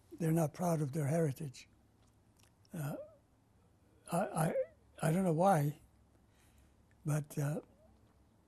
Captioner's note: pauses for 3 seconds